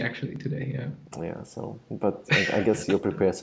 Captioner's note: laughs